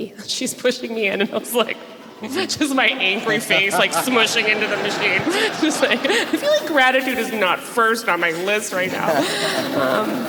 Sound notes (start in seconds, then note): 6.2 audience laughs